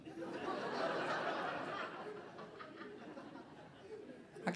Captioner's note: audience laughing